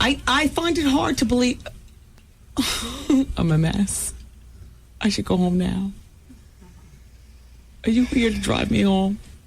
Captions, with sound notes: I find it hard to believe... [laughing] I'm a mess. I should go home now. Are you here to drive me home?